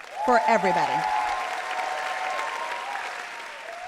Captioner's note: all cheering